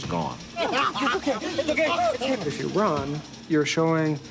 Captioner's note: crying out